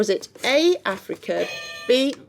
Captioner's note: buzzing